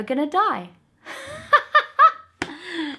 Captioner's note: laughs